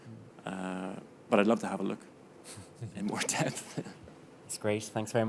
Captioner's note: chuckling